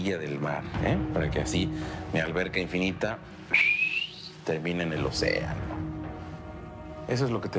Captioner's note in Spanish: Silbido